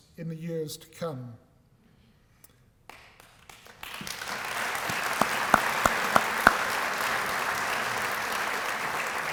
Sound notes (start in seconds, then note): 2.8 applause